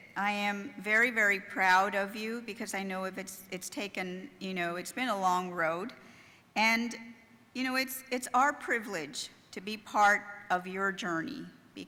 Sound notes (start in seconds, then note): none